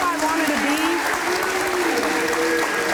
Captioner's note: crowd